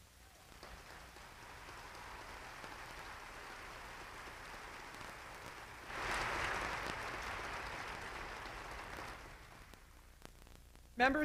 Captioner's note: applause